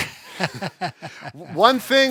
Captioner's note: laughter